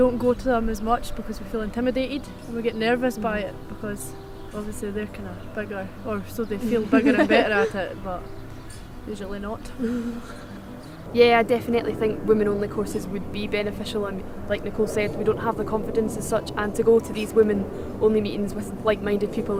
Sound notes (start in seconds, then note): 10.5 laughs